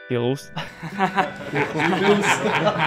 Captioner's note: laughs